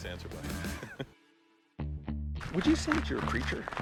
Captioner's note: laughing